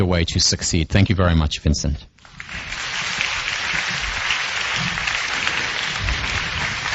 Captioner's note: applause